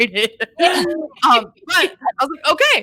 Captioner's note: laughing